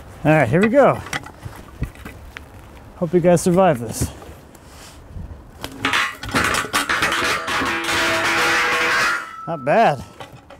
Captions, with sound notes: All right, here we go. Hope you guys survive this. (metal clunking) Not bad.